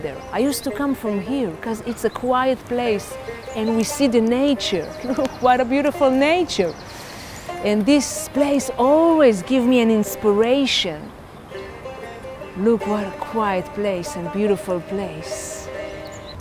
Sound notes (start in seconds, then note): 6.8 inhales deeply